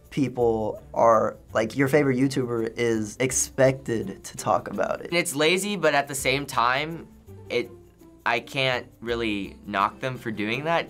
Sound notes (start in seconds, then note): none